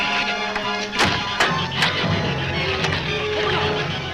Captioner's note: shrews chatter; gate slams